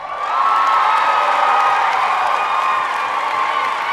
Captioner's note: audience cheering